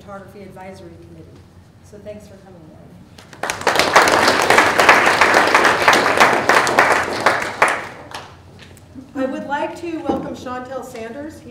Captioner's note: applause